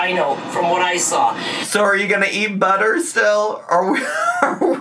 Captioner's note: laughs